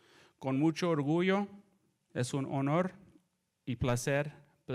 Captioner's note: speaks in foreign language